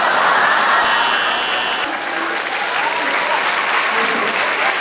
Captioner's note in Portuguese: campainha